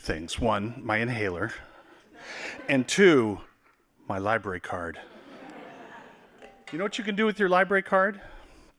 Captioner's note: laughing